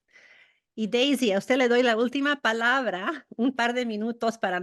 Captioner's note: spanish